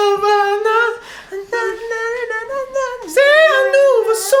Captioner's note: still humming